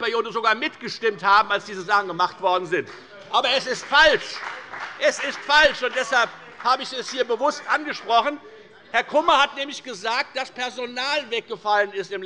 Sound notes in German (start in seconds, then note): 2.8 Beifall bei der FDP - Zurufe von der CDU